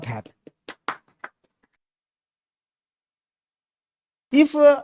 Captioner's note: claps